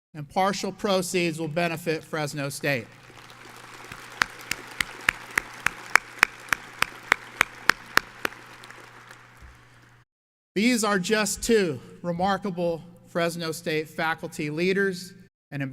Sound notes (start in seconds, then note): 2.6 audience applauds